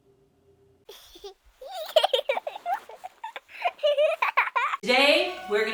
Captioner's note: child laughing